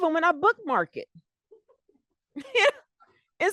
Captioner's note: laughter